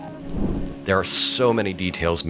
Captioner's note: air whooshes